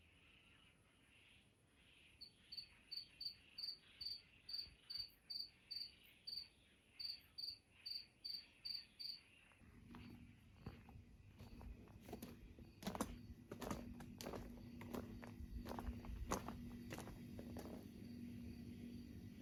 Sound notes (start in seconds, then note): 2.2 crickets chirping